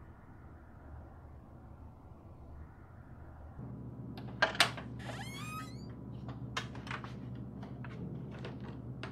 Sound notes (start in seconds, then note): 4.9 door creaking